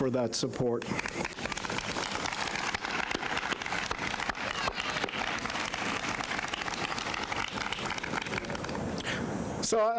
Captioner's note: applause